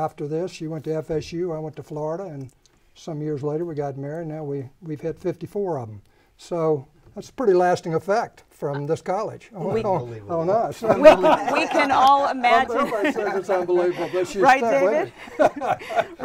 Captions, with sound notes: She, after this, she went to FSU, I went to Florida, and some years later we got married and now we've had 54 of 'em. So, that's a pretty lasting effect from this college on us. (laughing and chattering) Everybody says it's unbelievable, but she's stuck with it.